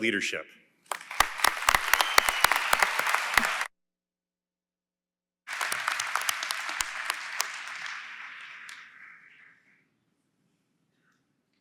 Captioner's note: applause